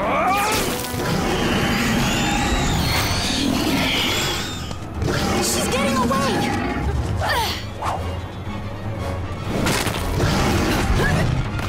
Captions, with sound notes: He's getting away. [GRUNT]